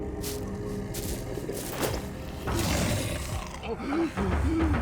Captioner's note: dramatic music; growling